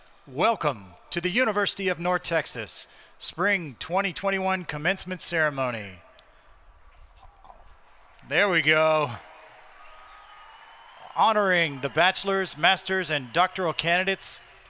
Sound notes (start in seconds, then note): 9.4 crowd cheering